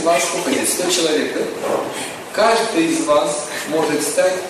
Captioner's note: смех